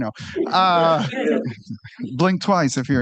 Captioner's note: laughter